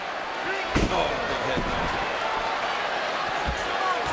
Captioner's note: head thuds